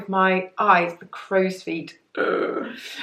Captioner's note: groans